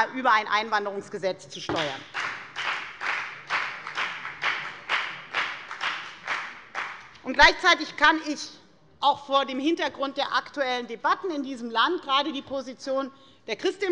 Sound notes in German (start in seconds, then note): 1.7 Beifall bei der FDP